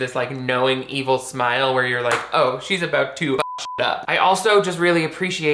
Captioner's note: beep